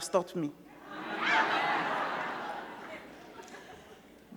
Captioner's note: crowd laughing